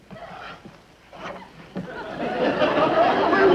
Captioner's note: audience laughs